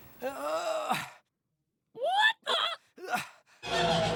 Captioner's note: grunting